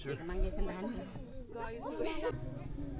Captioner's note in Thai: พูดภาษาต่างประเทศ